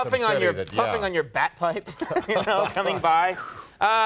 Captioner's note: laughing